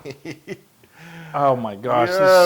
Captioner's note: laugh